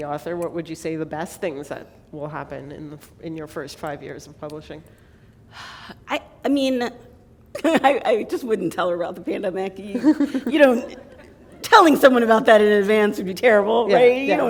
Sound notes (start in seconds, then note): 6.6 chuckle